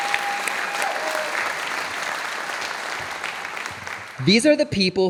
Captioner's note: audience applauding